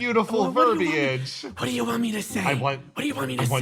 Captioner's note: whispering